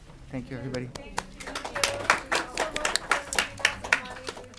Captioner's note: audience applauding